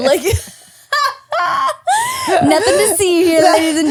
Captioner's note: laughing